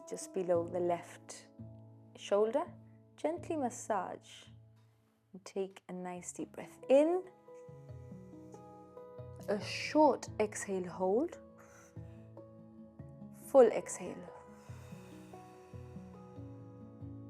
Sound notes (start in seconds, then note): 7.6 inhaling; 11.6 exhaling; 14.4 exhaling